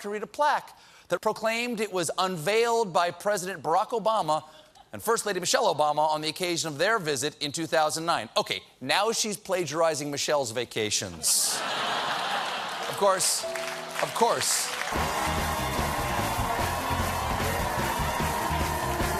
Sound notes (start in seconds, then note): 11.3 laughter; 12.6 cheers and applause